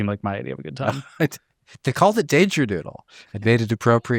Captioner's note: chuckles